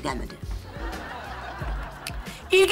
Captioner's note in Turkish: Gülme efekti